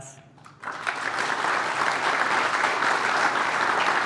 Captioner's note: applause